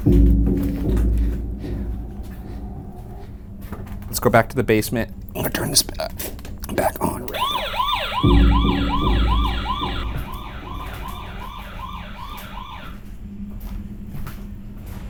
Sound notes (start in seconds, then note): 0.0 eerie pensive music; 7.3 motion alarm blaring; 10.4 footsteps padding